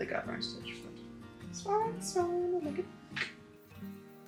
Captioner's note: singsongy